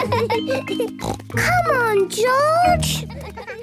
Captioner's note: laughs; snort